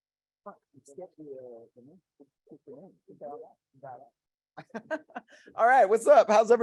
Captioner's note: radio interference drowns out speaker